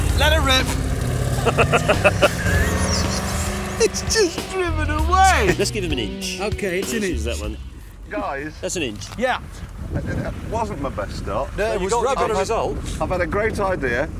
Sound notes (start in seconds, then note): 1.0 they laugh